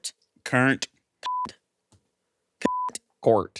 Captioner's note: beep